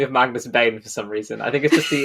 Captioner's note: laughs